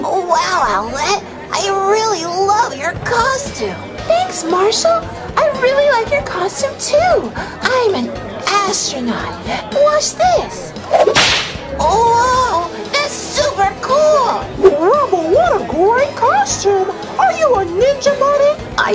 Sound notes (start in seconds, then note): 10.8 whip cracks